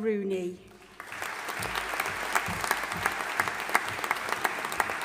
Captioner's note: audience applauding